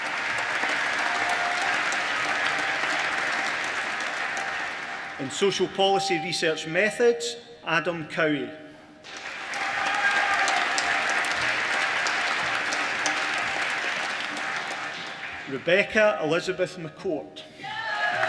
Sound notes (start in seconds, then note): 0.0 applause; 9.0 applause